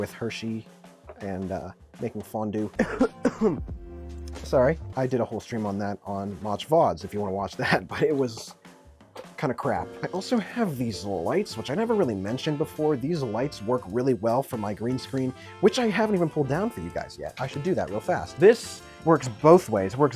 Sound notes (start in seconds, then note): 2.7 coughing